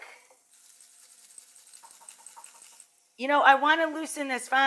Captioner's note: grater clinks